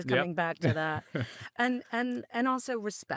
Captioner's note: chuckling